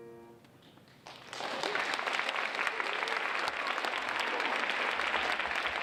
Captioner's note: audience applauding